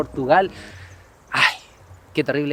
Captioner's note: sigh